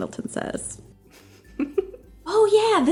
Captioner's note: giggles